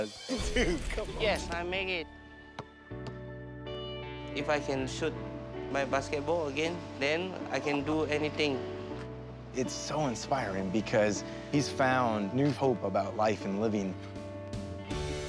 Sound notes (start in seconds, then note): none